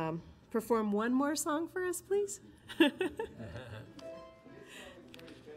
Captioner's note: laughs; slow harp strumming